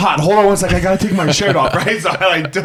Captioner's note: laughs